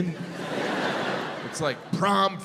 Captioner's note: crowd laughs